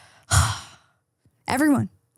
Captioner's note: person sighing